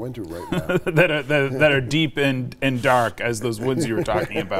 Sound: chuckles

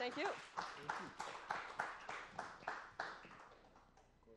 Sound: applause

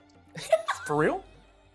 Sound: laughs

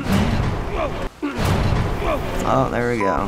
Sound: bus groans

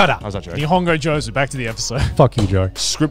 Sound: speaks Japanese

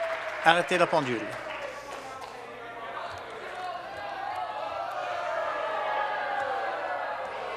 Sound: some Applause

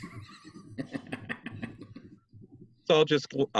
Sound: all laughing

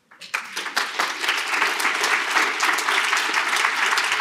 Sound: applause

